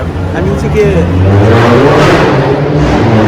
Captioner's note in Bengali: পুনরুদ্ধার ইঞ্জিনের শব্দ